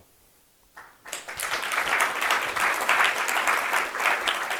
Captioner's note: applause